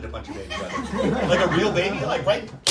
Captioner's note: audience laughs